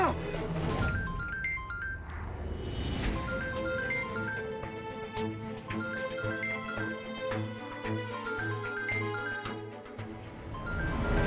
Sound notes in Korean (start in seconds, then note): 0.7 휴대전화벨 소리